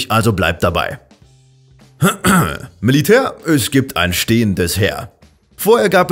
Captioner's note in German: räusper